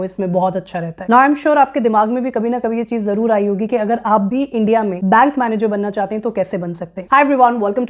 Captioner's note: speaking hindi